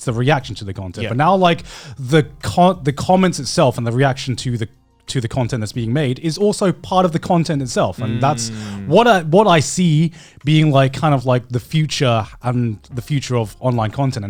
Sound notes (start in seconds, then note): 7.8 affirmative murmuring